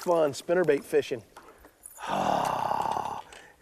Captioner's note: growling